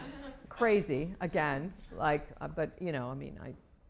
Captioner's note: laughter